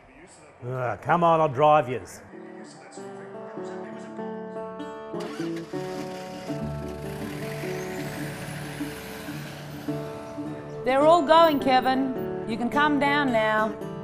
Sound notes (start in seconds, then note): 2.2 TV sounds